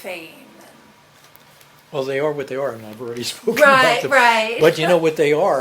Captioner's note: laughs